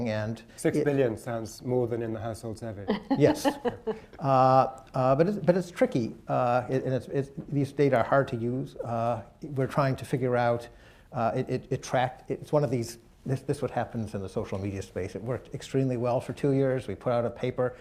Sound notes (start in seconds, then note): 2.9 laughs